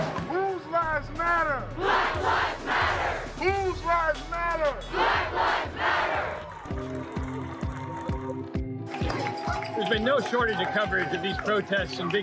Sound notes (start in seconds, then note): 6.9 cheering